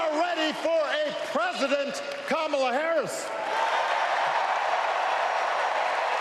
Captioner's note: applause